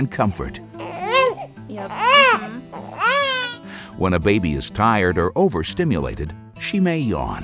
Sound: baby crying

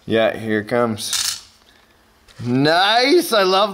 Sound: gold clattering

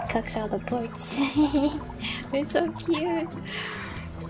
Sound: giggling

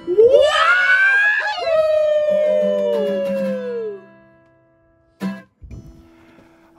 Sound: singing; yelling from the audience

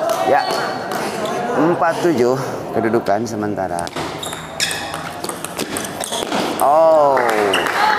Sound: applause hands

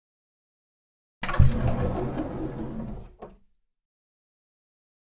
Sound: sound of door

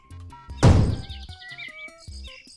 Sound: cannon fires

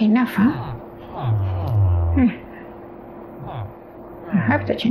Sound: villager noises

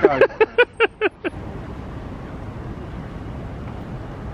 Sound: laughs

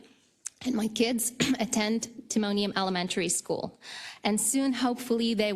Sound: cough

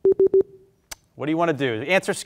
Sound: warning bleep

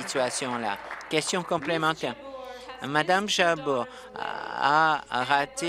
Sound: applause

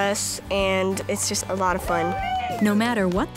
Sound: cheering

